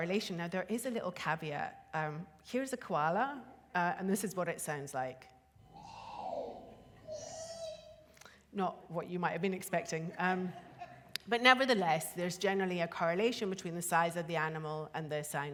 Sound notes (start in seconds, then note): 5.7 koala bellows